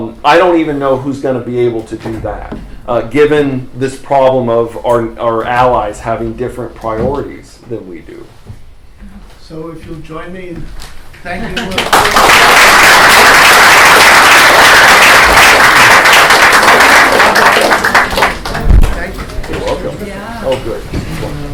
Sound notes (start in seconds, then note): 11.5 applause